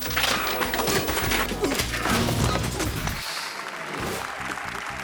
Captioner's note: bicycle clattering; people grunting; audience applauding